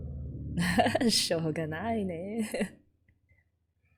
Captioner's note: laughs